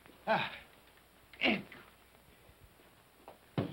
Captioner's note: Cratchit grunts